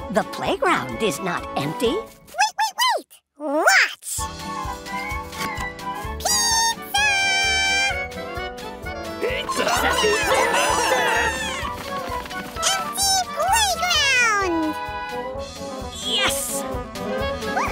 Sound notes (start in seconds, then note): 9.3 chatter